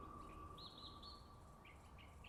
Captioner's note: birds chirping